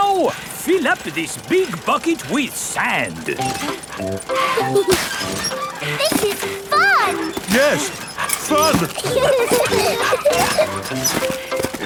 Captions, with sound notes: Now, fill up this big bucket with sand! -(MUMMY AND DADDY PIG PANTING) -(PEPPA AND GEORGE LAUGHING) This is fun! (STRAINING) Yes! Fun! (PEPPA AND GEORGE LAUGHING)